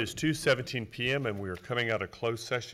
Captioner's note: soft music; gavel pounds